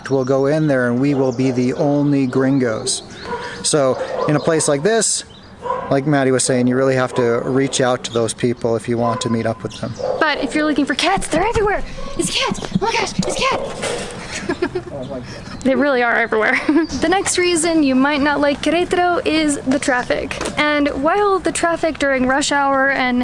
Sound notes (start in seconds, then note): 14.3 laughs